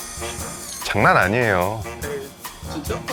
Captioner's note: confident